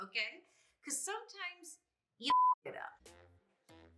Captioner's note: beep